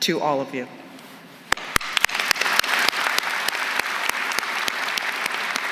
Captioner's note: applause